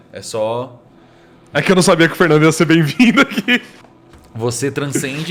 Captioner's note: laughs